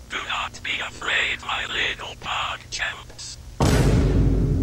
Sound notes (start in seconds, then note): 3.6 vine boom and sussy alternate!jerma